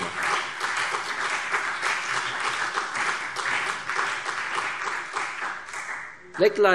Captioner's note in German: Beifall